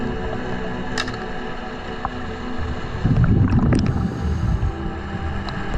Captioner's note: underwater sounds continue